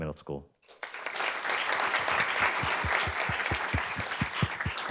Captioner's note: audience claps